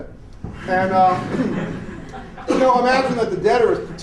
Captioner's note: laughter